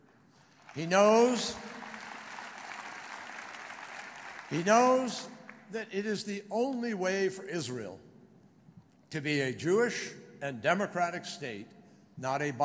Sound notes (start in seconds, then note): 0.3 applause